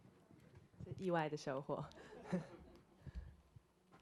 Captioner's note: Mandarin; audience laughter